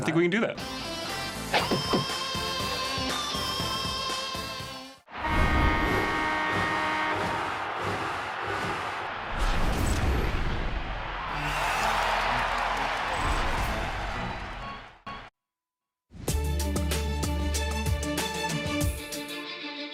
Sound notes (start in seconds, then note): 5.1 goal horn; 6.7 crowd cheering; 11.9 organ